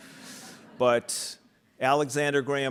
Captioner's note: audience laughing